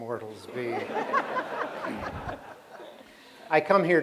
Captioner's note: laughter